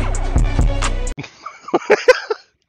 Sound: laughs at the funny video

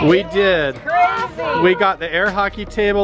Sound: kids chattering

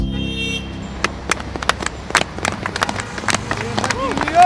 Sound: crowd clapping

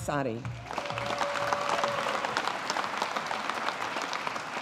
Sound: audience applauding

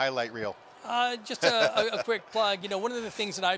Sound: laughs

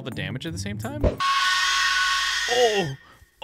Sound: screaming

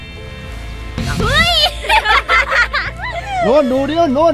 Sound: laughs

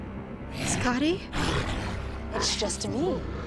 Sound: growls; distorted voice

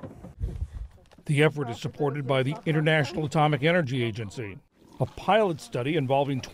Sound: voice-over

